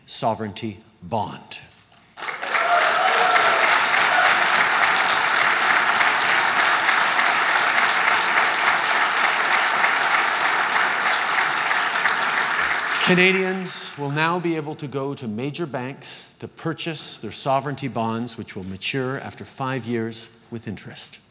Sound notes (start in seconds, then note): 2.1 applause